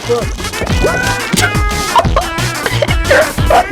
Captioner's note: laughs to myself